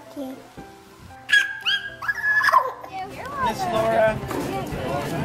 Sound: makes monkey call; crowd talking

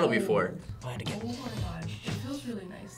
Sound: sniffs

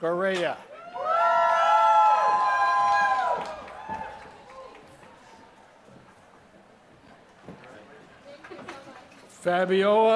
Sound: applause

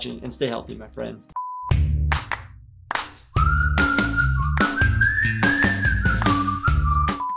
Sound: monitor beeps; upbeat music

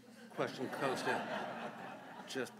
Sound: laughter

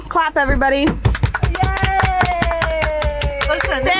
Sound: girls clap

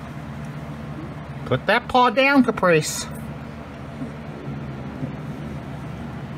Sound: Caprice growls

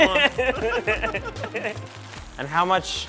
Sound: laughing

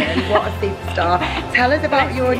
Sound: laughs

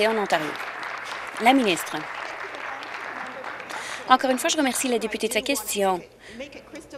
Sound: applause

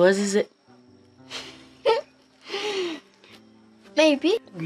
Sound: chuckles

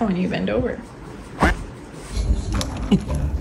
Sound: duck quacks; soft instrumental music

